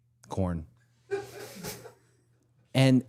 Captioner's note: crew member laughs